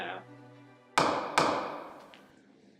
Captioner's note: gavel bangs